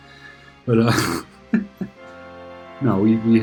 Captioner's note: laughs